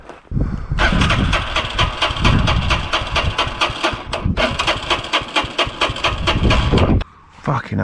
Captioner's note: engine turning